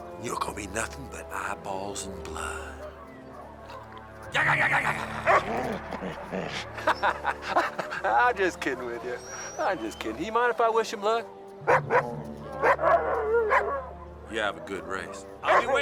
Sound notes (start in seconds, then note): 5.0 Heep growling; 5.2 Buck barks; 6.9 laughing; 12.5 Buck barking